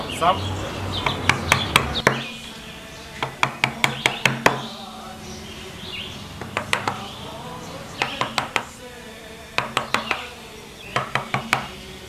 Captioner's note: woodcarving sounds